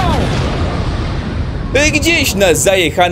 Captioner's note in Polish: boom!